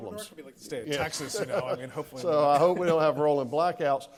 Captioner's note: laughs